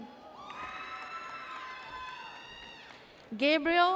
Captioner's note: audience cheers